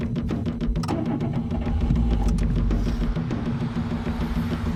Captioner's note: engine starts